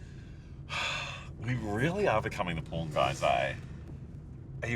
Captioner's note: sighs